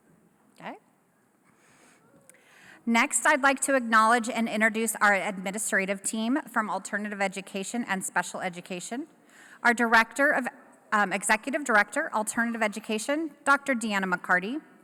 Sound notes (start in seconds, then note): none